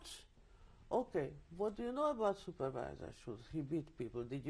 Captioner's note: german; german